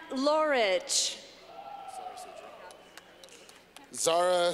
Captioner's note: clapping